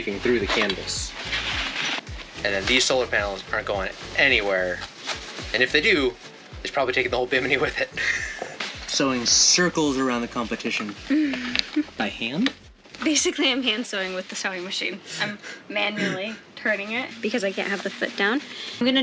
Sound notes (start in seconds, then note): 7.8 chuckles